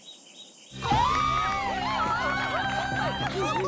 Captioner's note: cheering